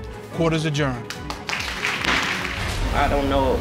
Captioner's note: applause; gavel pounds